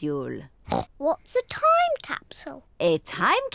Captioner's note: oinks